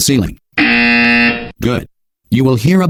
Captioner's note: buzzer